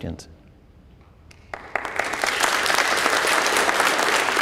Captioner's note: applause